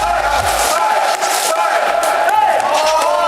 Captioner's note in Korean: Багтрах хөгжөөн дэмжигч